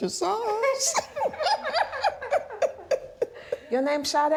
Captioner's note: laughing